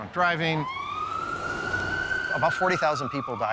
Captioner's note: siren blaring